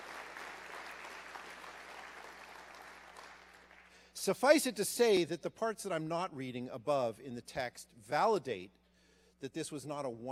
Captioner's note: applause